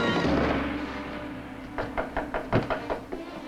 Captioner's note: knocking at door